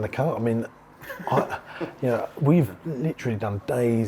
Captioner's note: laughs